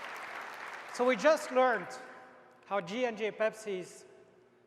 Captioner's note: applause